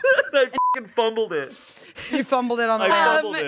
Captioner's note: beep